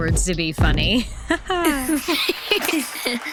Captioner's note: laughter